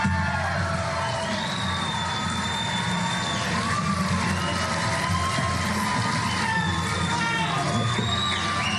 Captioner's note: applause